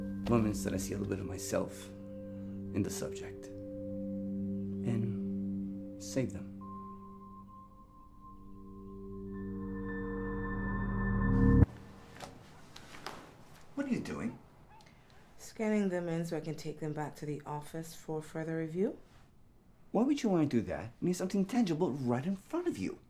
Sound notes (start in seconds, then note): 7.0 unsettling music; 12.7 page rustling